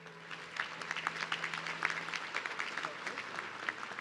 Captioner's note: audience clapping